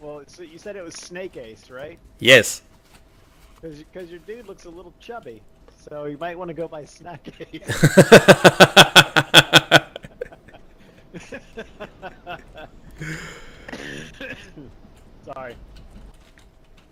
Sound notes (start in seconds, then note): 7.6 laugh; 10.9 demonic laugh